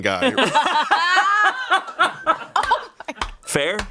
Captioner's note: everyone laughs